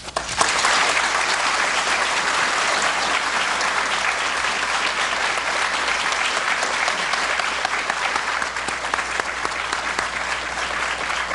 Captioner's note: applause